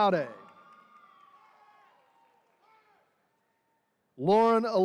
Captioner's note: attendees cheering